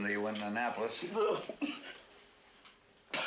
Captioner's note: coughing